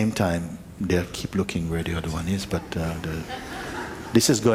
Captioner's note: laughter